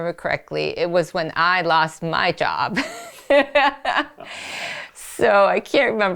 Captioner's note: laughs